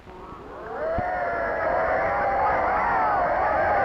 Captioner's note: cheering